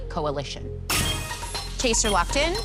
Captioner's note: chime